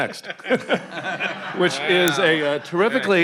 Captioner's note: attendees laughing